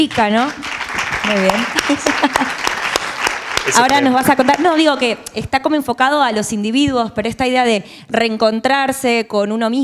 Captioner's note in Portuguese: APLAUSOS Do PÚBLICO